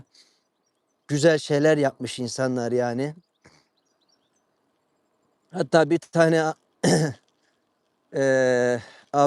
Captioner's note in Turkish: boğazını temizler